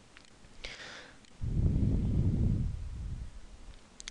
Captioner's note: breathing